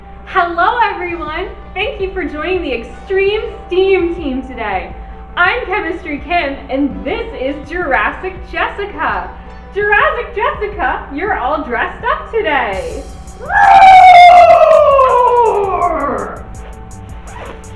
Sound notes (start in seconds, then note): 13.4 roar